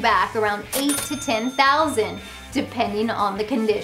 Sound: cash register dings

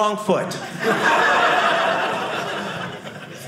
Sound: audience laughing

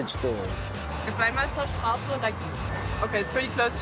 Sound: speaking foreign language

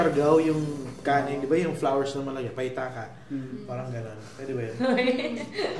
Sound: laughs

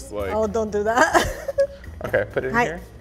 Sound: laughs

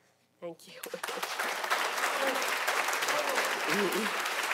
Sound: audience clapping

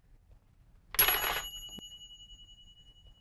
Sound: toaster dinging

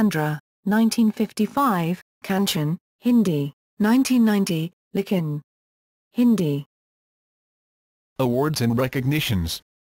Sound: Hindi; Hindi

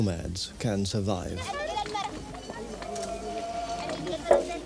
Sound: non-english speech

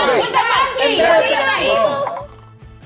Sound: bell dings

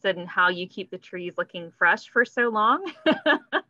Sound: laughs

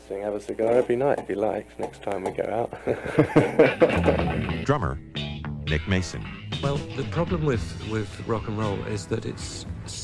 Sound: laughs

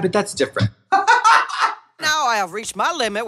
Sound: Trixie laughs

